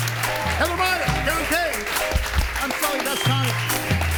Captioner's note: audience applauds